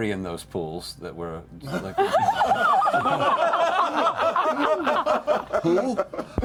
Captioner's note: laughter